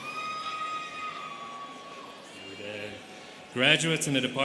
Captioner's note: students cheering